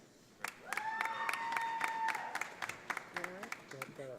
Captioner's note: audience applauding